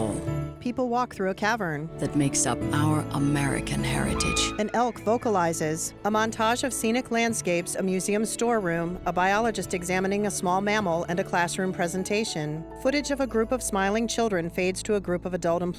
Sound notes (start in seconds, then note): 3.8 elk bugles